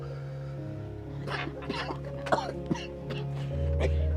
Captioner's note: coughing